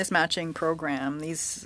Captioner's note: speaking French